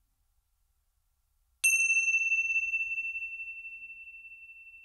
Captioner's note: bell chimes